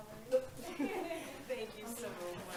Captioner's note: laughing